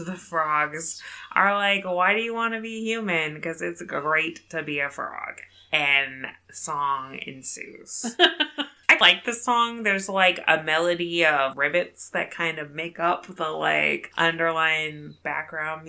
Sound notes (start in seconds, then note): 8.1 laughs